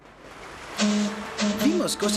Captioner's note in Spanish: silbato